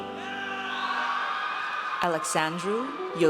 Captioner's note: audience cheers